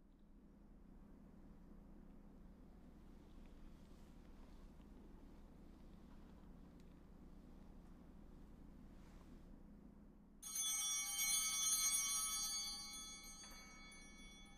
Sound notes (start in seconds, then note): 10.4 bell ringing